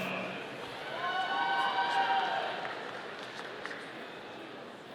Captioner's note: audience applauding